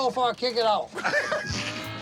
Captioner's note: laughing